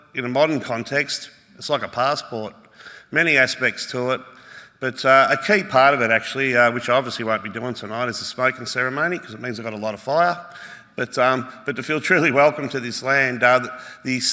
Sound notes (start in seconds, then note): none